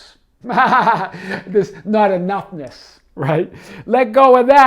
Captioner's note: laughing